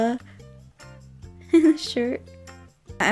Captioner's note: giggles